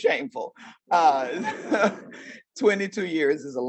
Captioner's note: audience laughing